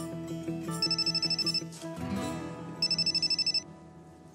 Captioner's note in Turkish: Telefon çalıyor